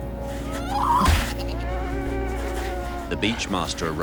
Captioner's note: sea lions grunting